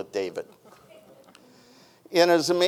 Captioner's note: person chuckles